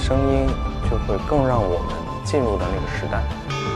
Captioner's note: chime Bells